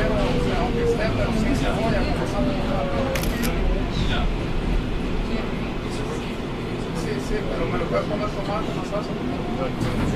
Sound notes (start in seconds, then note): 3.1 camera shutter